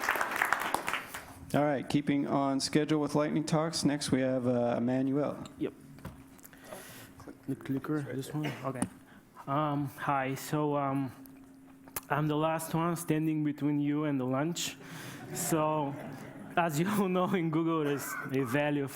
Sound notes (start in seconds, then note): 3.4 applause